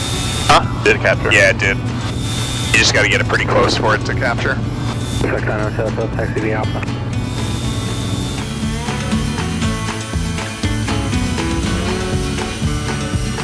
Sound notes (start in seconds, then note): 7.5 gentle country music continues; 9.4 plane engine buzzing